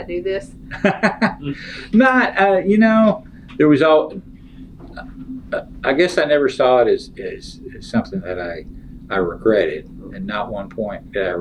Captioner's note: laughs